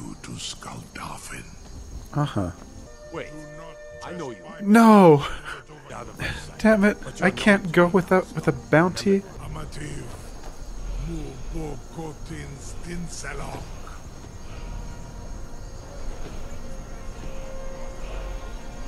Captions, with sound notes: Uh huh. No! (laughs) (sighs) Damn it. I can’t go withou- with a bounty?